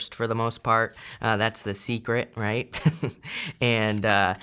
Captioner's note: chuckles